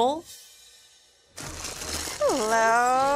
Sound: plastic crunching

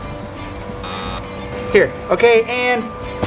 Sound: buzzer sounds

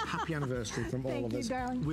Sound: laughter

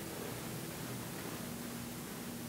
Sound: none

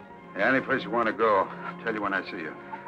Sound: on phone

